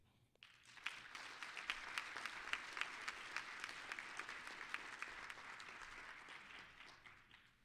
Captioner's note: applause